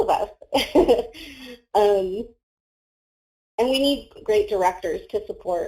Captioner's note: laughs